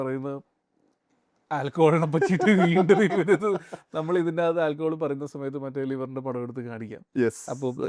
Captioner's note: laughs